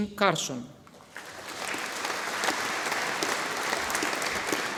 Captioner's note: audience applauding